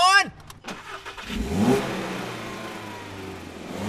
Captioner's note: car starts